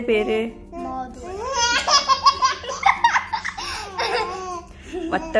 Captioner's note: laughing